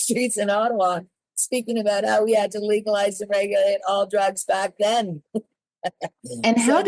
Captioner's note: laughs